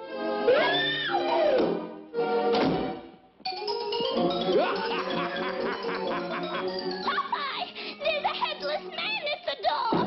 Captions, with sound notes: [screams] [laughs] Popeye! There's a headless man at the door!